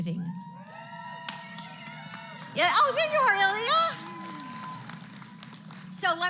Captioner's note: applause